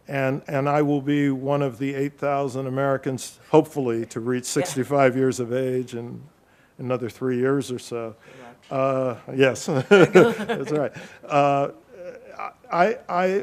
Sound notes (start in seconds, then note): 8.4 faintly speaking; 9.8 laughing